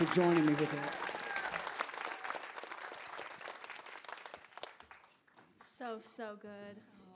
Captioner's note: crowd applause